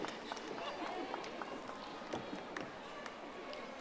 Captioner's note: audience applauding